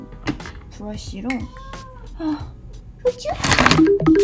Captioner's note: meow